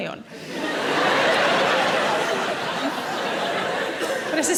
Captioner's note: audience laughs